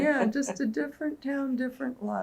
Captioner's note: laughs